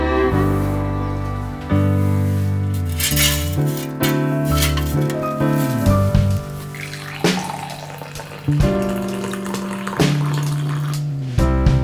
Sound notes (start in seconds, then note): 6.7 the satisfying sound of pouring a cup of coffee